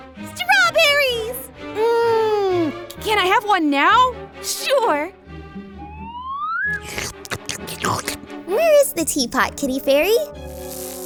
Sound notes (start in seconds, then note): 6.7 eating sounds